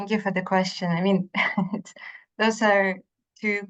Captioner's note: laughs